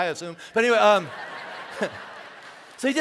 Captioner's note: congregation laughing